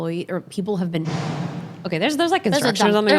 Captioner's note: loud bang